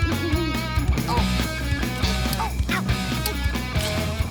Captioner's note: moaning